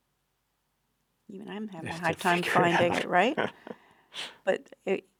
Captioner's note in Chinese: 笑~~